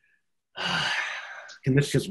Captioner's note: exhales